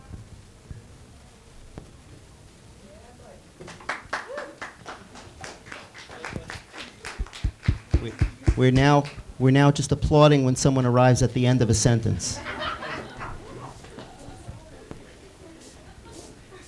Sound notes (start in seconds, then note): 3.6 students applauding; 12.2 students laughing